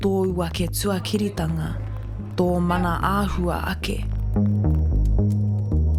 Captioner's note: slow distorted speaking